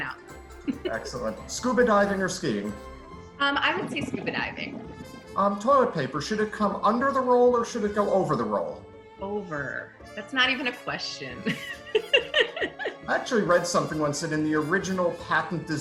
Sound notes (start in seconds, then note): 0.6 laughs; 4.8 bubbles; 11.4 laughs